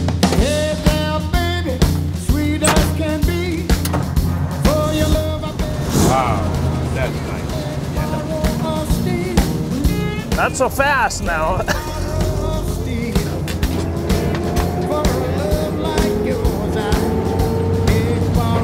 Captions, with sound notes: Wow, that's nice. - Not so fast now. (engine noises)